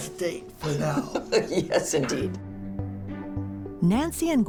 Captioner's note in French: rires